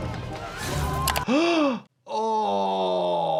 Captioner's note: dramatic music; doctor gasps